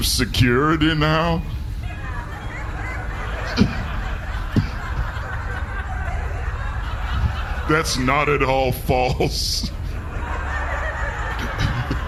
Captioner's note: audience laughs